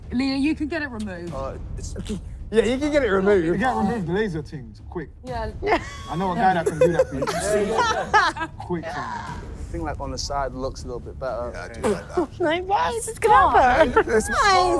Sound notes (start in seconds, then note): 6.4 laughing